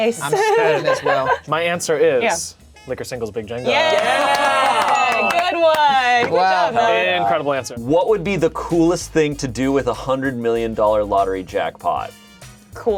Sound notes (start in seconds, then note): 0.3 giggles; 3.6 cheering